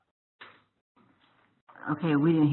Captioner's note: pause